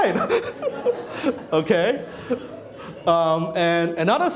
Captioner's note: laughing